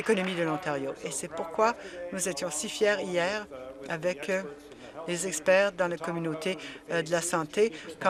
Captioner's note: applause